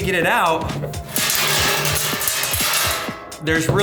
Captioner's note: coins clanging in box